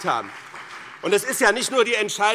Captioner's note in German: Beifall BÜNDNIS 90/DIE GRÜNEN und CDU